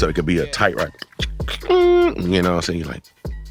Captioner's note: beat boxing